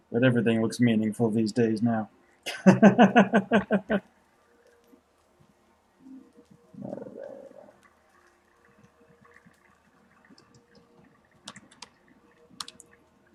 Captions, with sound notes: But everything looks meaningful these days now. [laughs] What do they want...